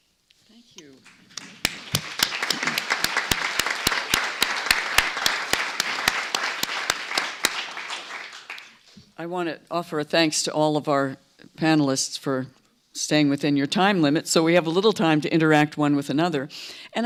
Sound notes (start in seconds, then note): 1.0 applause